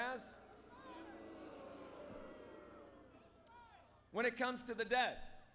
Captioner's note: crowd booing